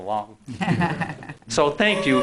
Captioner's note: laughing